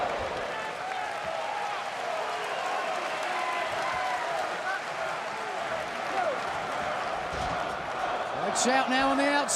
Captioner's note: crowd cheering